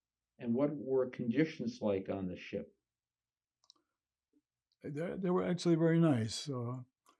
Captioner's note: none